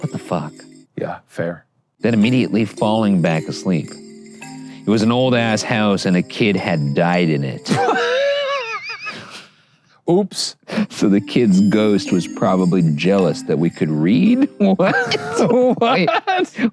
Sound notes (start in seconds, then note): 7.6 laughing